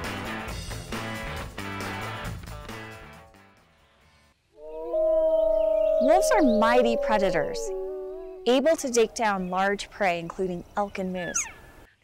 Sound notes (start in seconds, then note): 4.6 wolves howling